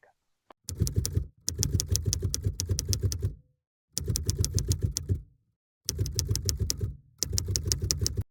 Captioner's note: typewriter noise